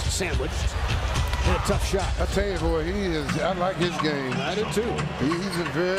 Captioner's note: crowd noise